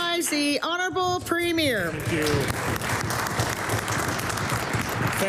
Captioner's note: applause